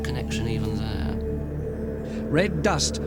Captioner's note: wind blowing